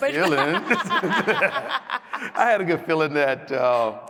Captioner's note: audience laughs